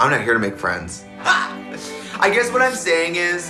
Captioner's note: woman laughs